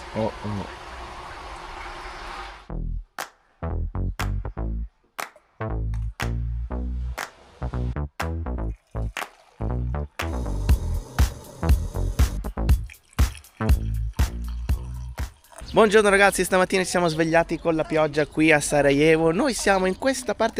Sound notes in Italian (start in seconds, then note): 5.1 Applauso